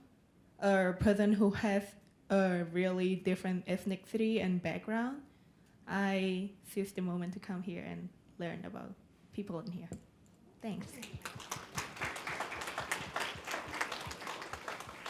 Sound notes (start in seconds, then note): 10.8 applause